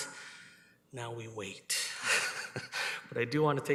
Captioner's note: laughs